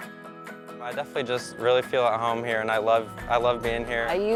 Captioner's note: upbeat music; male Voice